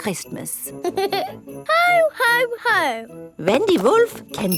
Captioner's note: giggles